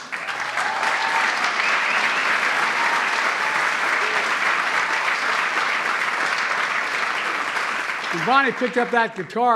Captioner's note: applause